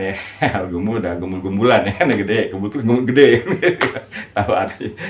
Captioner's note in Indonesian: tertawa